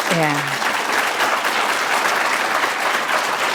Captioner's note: applause